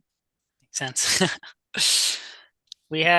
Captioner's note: host chuckles